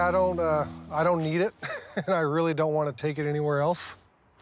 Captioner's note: chuckles